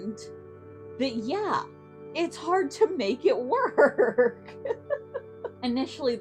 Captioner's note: giggles